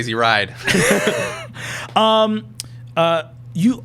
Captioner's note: laughing